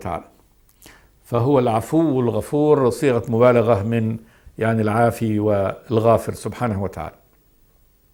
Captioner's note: in Arabic